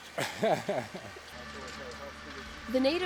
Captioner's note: laughing